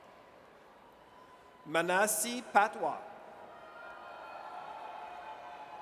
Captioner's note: audience cheers; audience cheers